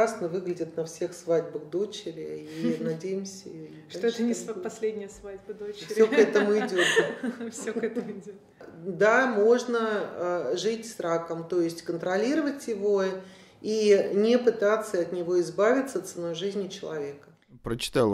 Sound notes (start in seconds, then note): 8.1 laughs